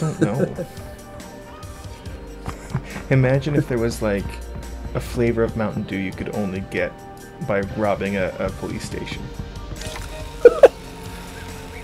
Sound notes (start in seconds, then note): 2.5 laugh; 10.4 laughs